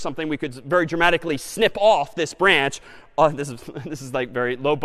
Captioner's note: laughs